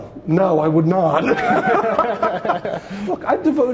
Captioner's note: both laughing